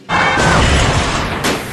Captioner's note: explosion